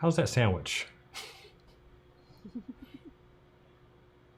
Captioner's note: laughs